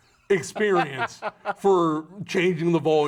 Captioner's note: laughing